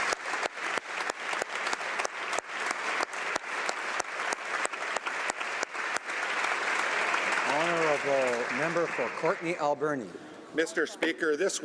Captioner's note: applause